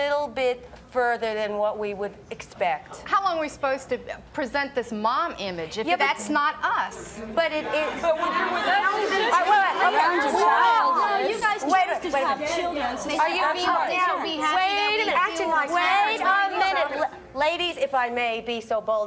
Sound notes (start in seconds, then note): 11.3 all arguing over each other